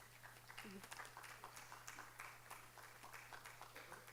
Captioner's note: speaking in foreign language; audience applauding